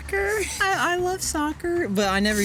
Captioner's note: in high voice